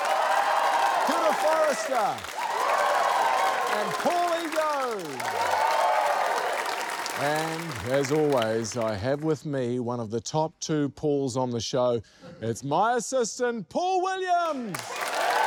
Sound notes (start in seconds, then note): 0.0 cheering; 2.5 cheering, applause; 5.5 cheering, applause